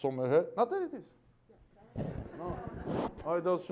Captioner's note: laughter